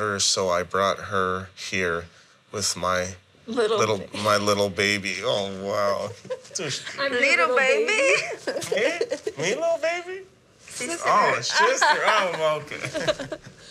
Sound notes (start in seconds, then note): 8.0 laughter